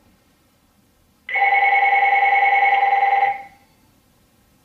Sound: phone ringing

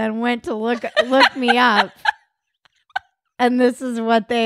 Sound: laughing

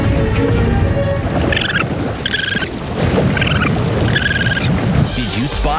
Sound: stomping; chirping

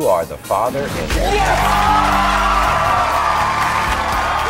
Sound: audience cheering

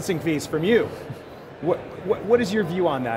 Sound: chuckles

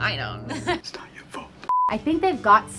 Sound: beep

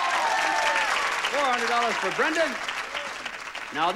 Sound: audience applauding

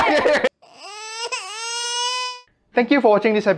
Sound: crying sounds

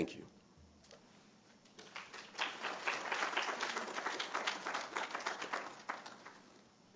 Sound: applause

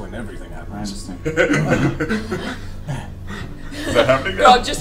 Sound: all laugh

